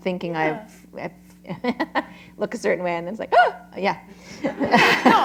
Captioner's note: laughter